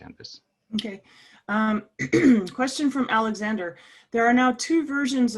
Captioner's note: cough